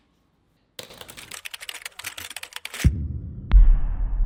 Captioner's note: typing